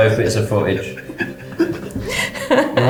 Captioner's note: laughing